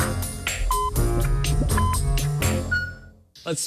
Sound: electronic beeping

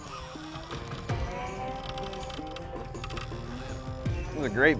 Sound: fishing rod whirring

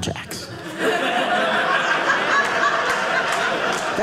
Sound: audience laughing

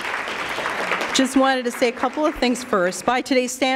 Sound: applause

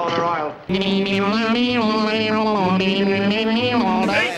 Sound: more auction sounds

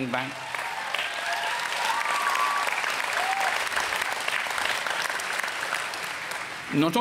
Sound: applause

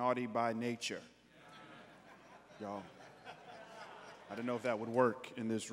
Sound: congregants laughing

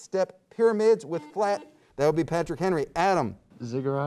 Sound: buzzer beeps

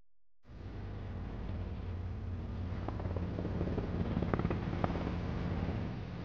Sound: helicopter blades whirring

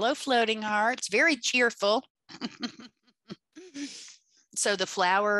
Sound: laughs

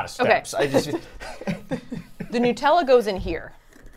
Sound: both laughing

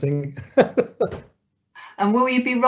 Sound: laughing

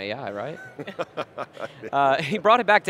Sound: everyone chuckling

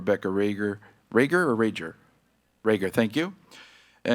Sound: speaking faintly

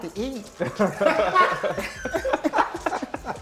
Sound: laughter

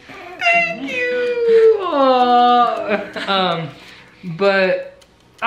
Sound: giggles

